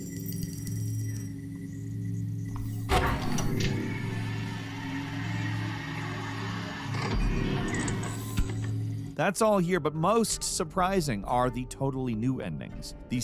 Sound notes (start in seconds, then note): 0.1 eerie dramatic music; 2.9 chair whirring; 3.0 mechanism clacking